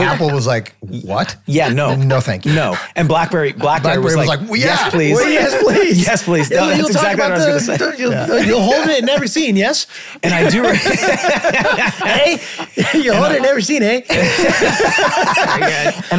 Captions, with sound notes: Apple was like, "What? "No, thank you." - And Blackberry was like, "Yes, please." - Yes, please. - Yes, please. That's exactly what I was gonna say. - That's where you were talking about, you were holding it in every scene, yes? (all laughing) - And I do remember (laughing). - Hey, you were holding it in every scene, hey? (all laughing)